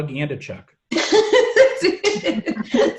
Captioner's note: all laugh